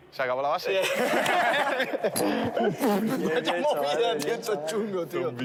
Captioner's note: laughter